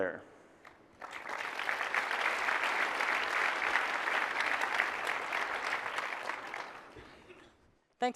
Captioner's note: applause